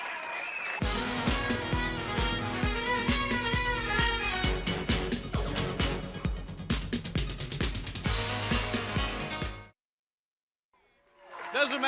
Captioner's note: crowd cheering